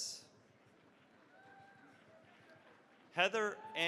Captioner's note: cheering, applause